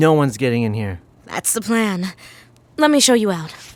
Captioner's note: none